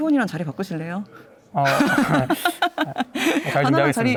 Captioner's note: laughs